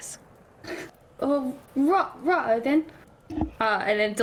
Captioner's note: inhale